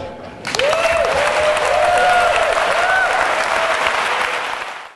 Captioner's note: applause